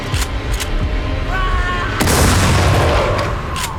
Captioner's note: Will screams; gunshots blasting